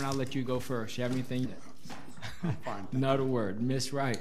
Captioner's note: laughs